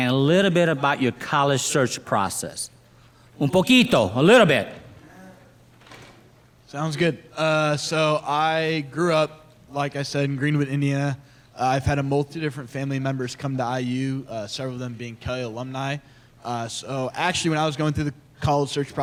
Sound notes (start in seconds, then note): 3.6 speaks in foreign language